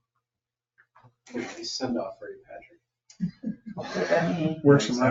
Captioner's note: laughs